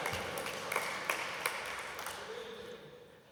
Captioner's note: applause